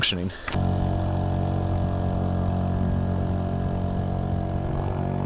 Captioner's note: boat engine revving